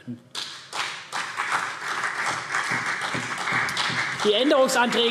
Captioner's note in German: Beifall CDU und BÜNDNIS 90/DIE GRÜNEN